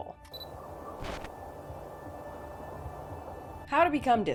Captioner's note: wind whistling